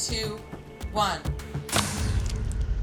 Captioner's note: whooshing and splatting